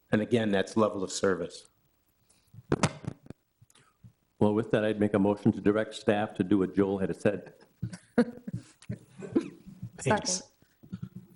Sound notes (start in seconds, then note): 7.4 all chuckling